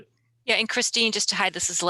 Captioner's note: woman's Voice